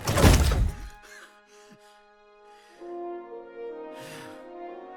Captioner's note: Nidhiki breathing heavily